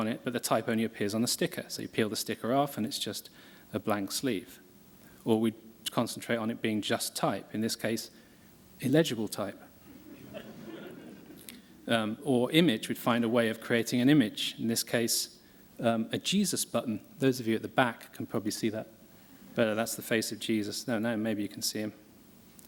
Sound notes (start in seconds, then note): 10.0 laughter